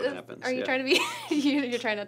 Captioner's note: laughs